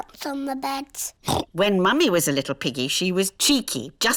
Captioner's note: oinks